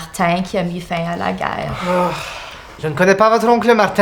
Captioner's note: collective exasperation